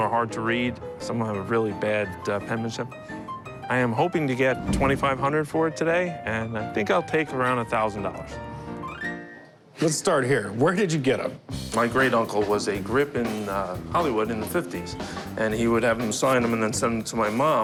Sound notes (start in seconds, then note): none